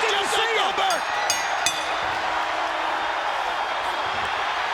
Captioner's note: bell ringing